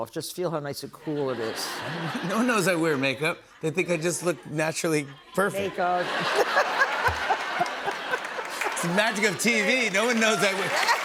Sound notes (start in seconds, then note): 1.0 laughter; 6.7 laughter